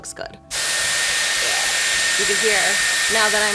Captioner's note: dryer whirs